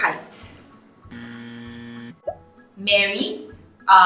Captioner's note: buzzer buzzes